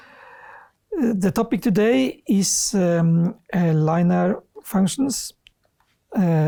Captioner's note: speaks Norwegian